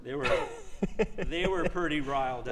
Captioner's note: laughs